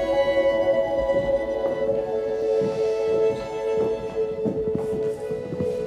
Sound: footsteps clicking

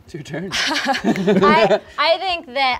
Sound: laughing

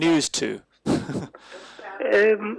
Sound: laughs

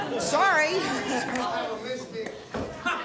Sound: audience laughing

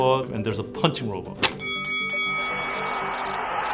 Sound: bell ringing

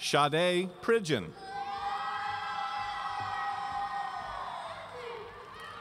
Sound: audience cheering

